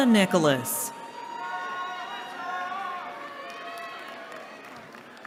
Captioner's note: cheering